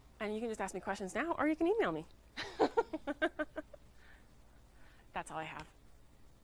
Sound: laughs

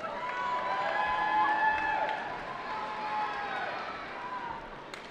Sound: cheering

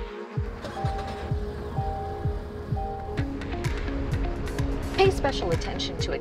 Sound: upbeat music; engine starts

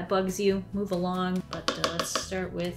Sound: paintbrush tapping on cup

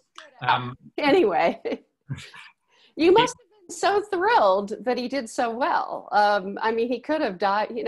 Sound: laughs

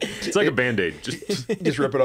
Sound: laughter

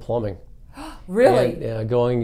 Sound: gasps

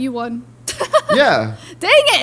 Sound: laughs

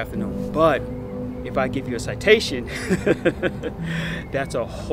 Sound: laughing

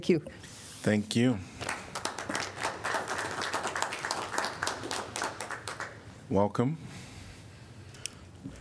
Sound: applause

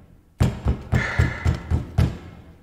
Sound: sigh

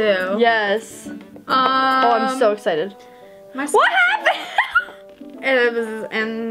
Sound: laughs

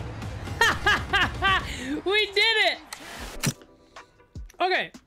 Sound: laugh

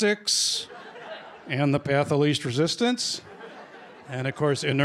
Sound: laughter; laughter

